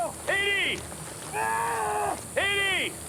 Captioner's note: screaming